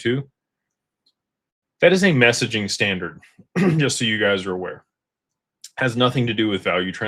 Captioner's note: clears throat